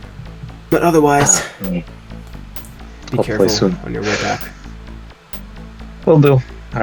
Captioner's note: exhale